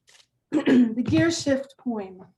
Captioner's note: throat clearing